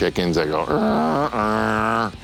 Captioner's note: imitates clucking